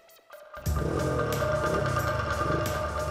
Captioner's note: engine revving